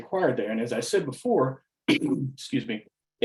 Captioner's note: coughs